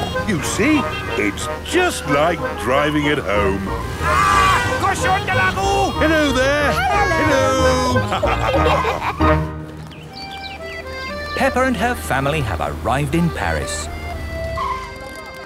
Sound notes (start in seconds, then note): 3.7 yells; 7.7 laughter